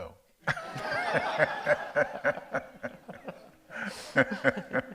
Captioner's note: audience laughs